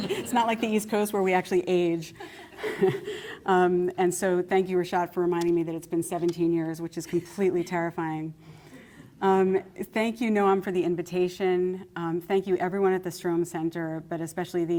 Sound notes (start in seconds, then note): 2.2 laughter